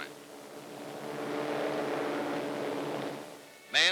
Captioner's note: plane engines